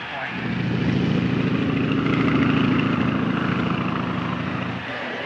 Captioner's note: airplane buzzing